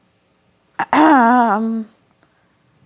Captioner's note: clears throat, as character